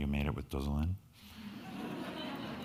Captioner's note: speaking in foreign language; crowd laughing